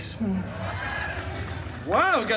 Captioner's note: guests chuckling